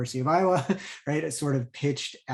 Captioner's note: chuckles